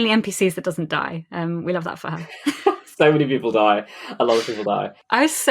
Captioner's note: laughs